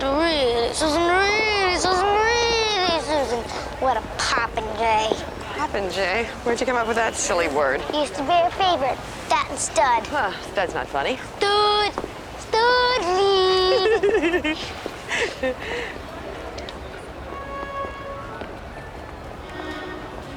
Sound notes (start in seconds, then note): 3.7 normal voice; 12.0 deep voice; 13.4 giggles